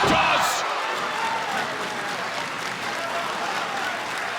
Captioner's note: crowd cheering